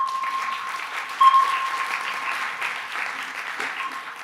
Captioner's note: beep; applause